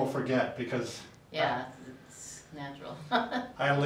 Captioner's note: chuckles